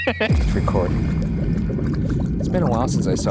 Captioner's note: laughs; eerie music; liquid bubbling